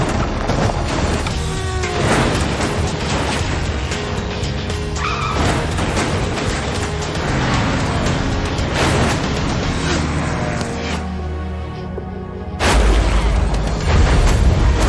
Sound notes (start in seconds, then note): 5.1 tires screech